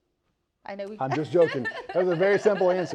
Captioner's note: laughs